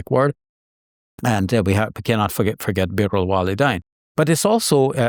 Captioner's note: speaking Arabic